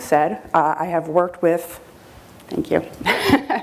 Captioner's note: chuckles